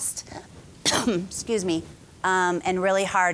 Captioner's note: coughing